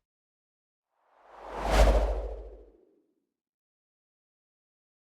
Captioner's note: whooshing